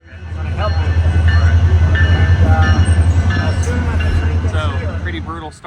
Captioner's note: railroad crossing bell ringing